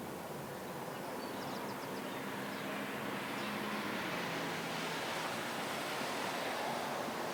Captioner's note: birds chirping; car whooshing